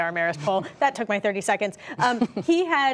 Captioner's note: laughter